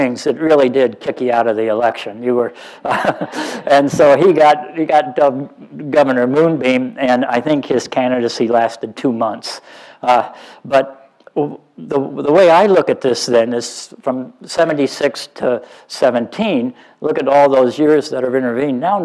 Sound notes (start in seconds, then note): 2.8 laughs